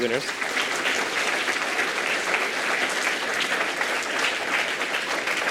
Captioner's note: applause